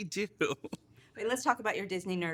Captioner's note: chuckles